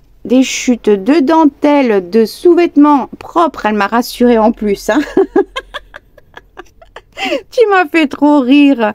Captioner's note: laughs